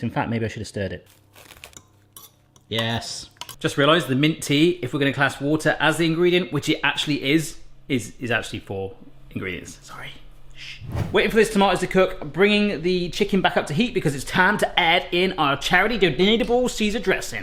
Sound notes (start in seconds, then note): 1.2 tearing